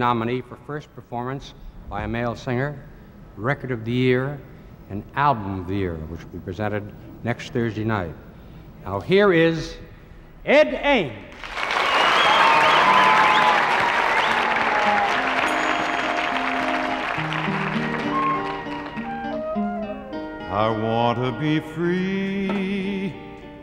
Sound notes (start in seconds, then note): 11.3 audience applauds; 14.7 gentle music